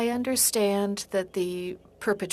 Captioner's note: speaking French